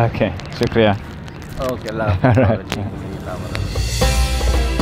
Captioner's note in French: Langue locale